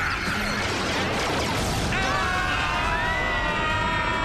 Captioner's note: screaming